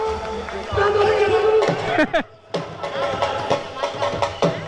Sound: applause

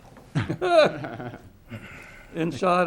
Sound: laughs loudly

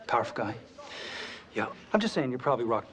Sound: Josh takes a deep breath

